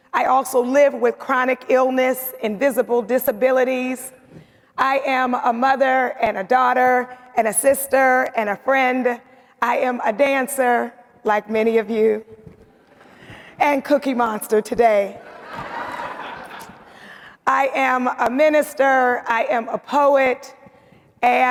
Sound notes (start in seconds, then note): 15.2 audience laughing